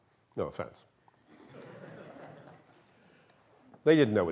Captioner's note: laughter